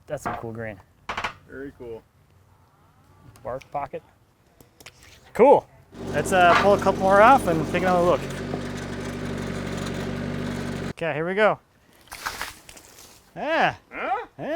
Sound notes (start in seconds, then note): 5.9 machine whirring; 12.1 water splashing